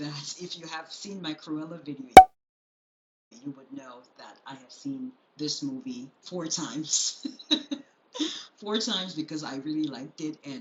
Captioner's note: chuckles